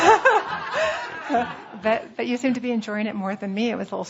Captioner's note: laughter